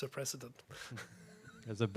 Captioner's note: chuckling